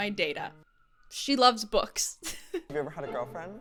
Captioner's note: chuckles